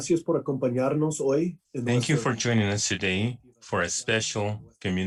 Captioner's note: talking in Spanish